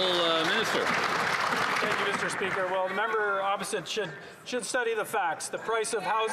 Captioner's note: some Applause